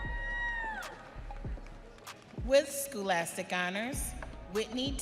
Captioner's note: audience cheering